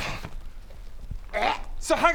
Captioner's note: urrgh; hrgh